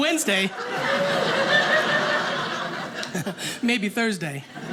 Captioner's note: audience laughing